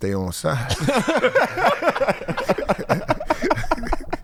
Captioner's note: laughing